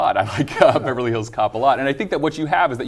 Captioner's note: laughing